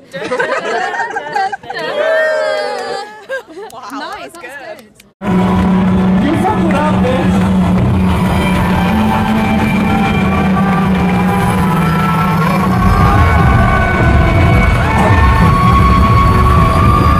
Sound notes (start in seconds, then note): 3.0 laughter